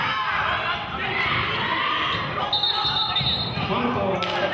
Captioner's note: yelling; whistling